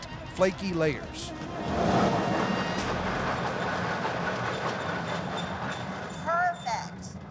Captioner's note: machine grinding sound